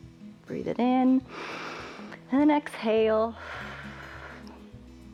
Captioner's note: exhales; inhales